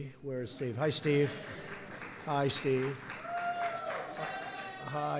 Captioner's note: applause